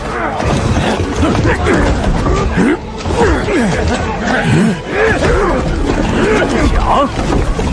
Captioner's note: grunting labor sounds